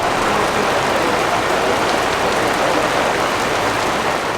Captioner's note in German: lautes Regenprasseln